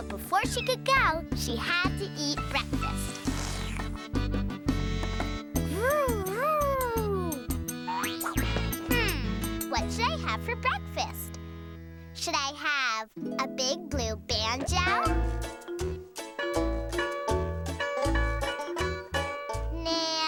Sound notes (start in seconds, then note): 2.4 slurping; 16.6 twanging